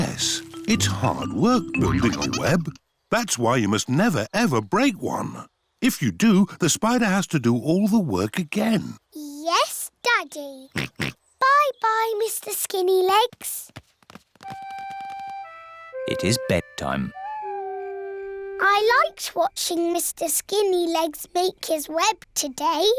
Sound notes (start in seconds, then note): 10.7 oinks; 17.1 owl hoots